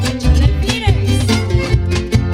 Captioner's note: speaks in Spanish; lively Music